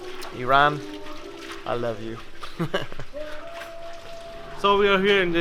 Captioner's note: chuckles